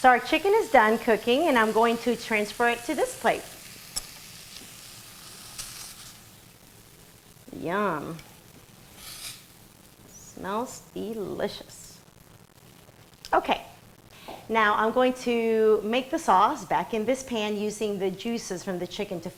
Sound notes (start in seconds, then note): 4.5 sound of chicken sizzling